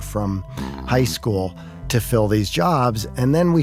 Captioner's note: coughs